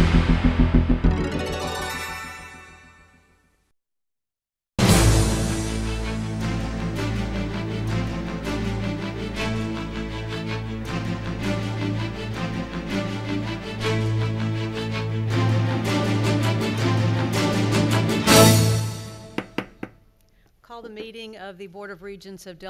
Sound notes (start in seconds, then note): 0.0 upbeat electronic music; 4.9 dramatic music; 19.3 gavel banging